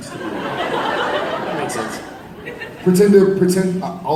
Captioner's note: audience laughs